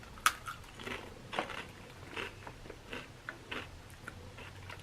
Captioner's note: chip crunching